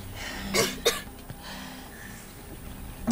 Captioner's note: Coughs